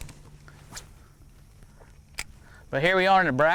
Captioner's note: fishing rod swooshing